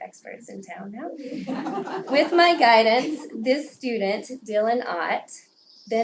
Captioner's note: laugh